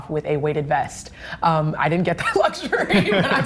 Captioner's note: laughing